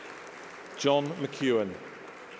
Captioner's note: applause